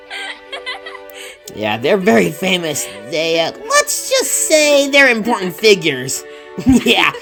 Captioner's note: Nina starts laughing; Nina can't stop giggling